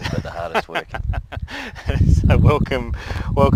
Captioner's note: laughs